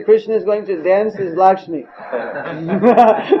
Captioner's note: all laughing